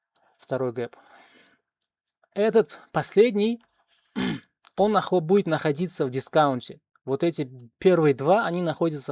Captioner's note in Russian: откашливается